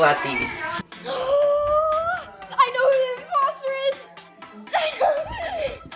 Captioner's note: gasping